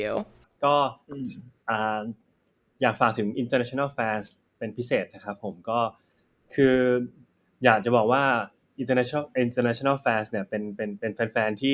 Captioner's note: answering in Thai